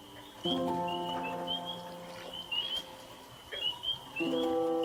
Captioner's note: frogs peeping